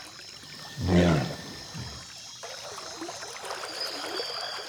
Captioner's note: caiman grunting